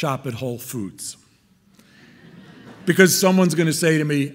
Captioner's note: audience laughing